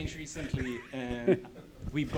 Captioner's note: chuckles